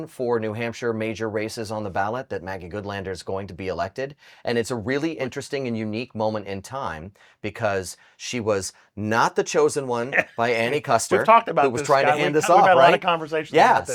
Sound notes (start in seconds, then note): 11.1 chuckles